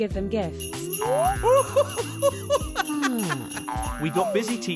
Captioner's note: snowman laughing